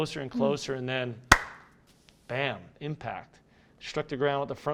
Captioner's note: hands clapping